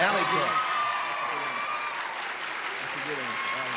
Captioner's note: cheering and clapping